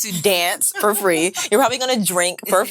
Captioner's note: laughing